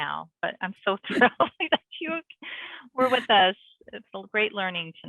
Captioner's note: laughs